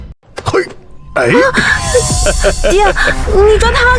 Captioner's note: laughs